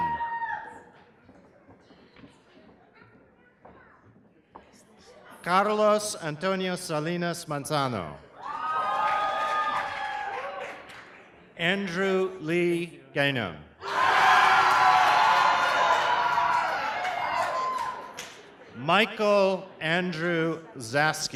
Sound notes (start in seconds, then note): 8.3 cheers; 13.8 cheers